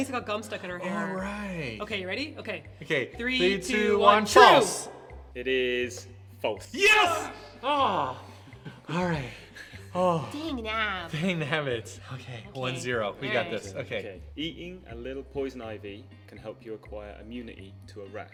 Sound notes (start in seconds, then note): 6.9 groans